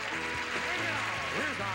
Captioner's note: audience applauding